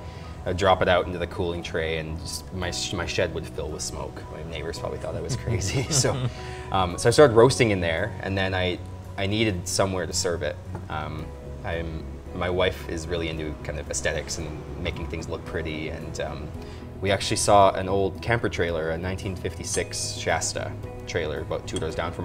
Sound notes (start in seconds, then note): 5.2 laughter